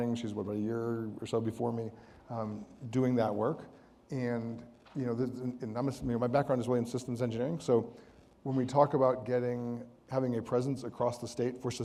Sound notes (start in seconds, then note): none